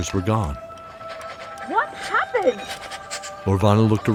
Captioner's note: shouting